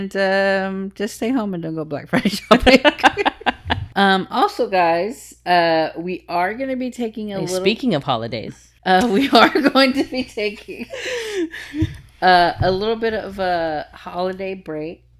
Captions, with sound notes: - And just stay home and don't go black for a show. (laughing) Also guys, we are gonna be taking a little-- - And speaking of holidays. - We are going to be taking a little bit of a holiday break